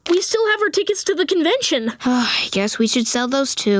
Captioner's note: sighing